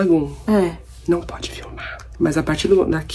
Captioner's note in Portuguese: sussurra